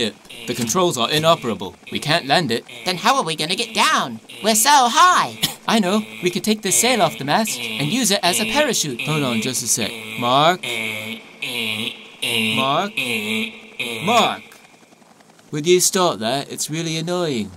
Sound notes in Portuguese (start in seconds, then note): 5.4 Zayn tosse; 11.5 Imitando zumbido de alarme